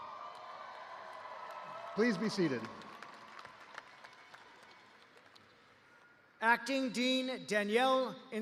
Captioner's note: cheers and applause